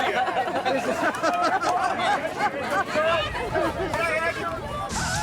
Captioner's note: group laughing